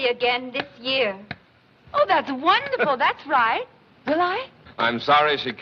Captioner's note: Gregory Chuckles